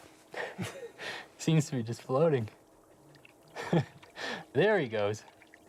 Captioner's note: laughs